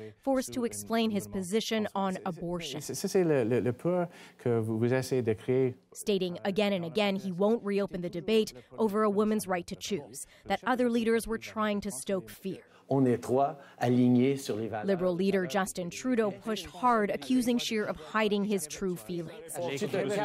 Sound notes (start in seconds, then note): 14.9 speaking French